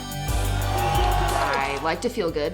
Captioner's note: cheering